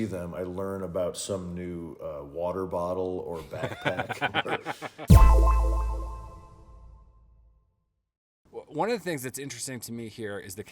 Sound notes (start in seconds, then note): 3.4 laughing; 5.1 sharp tone echoing